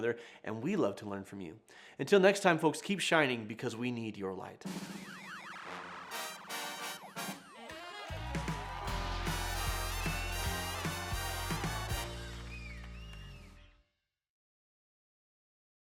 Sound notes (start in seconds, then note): 4.9 upbeat music; 5.4 audience cheers